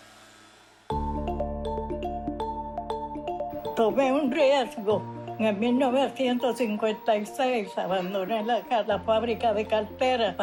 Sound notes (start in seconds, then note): 4.1 speaking spanish